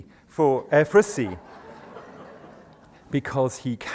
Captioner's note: laughter